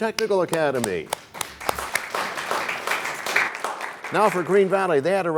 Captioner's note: applause